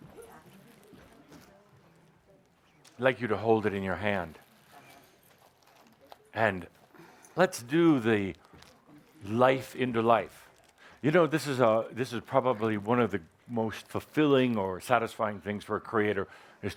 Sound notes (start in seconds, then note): none